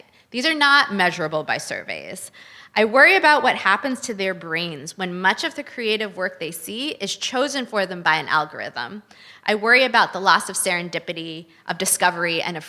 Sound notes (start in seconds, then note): none